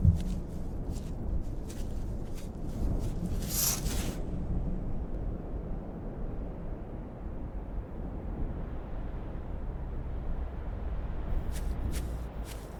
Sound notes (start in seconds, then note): 0.0 footsteps pattering; 3.5 branches rustling; 5.3 wind whistling